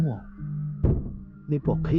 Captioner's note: knock, knock